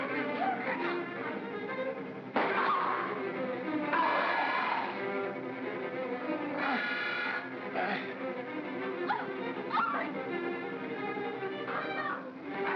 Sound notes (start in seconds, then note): 0.0 ominous music; 2.3 Barnaby groans; 5.6 ominous music; 12.5 Barnaby growls